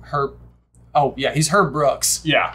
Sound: none

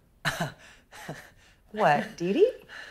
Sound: Laz laughs

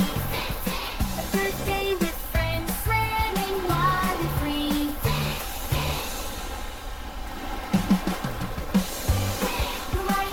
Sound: splash-Splash!

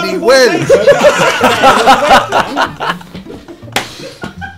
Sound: students laugh

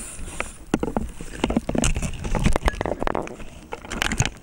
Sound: inhales deeply; rattling

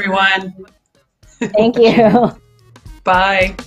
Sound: both laugh

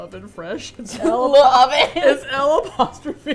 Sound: laughs

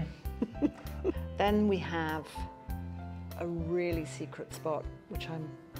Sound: chuckles

